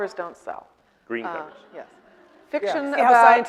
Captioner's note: audience laughing